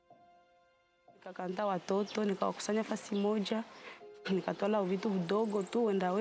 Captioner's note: gentle music; speaks Spanish